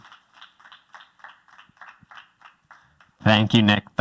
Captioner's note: applause